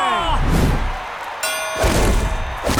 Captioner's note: dinging